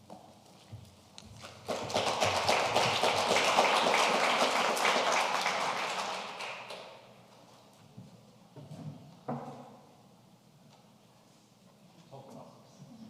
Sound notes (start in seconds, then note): 1.4 audience applauding